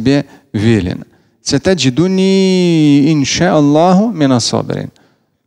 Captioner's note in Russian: Говорит на арабском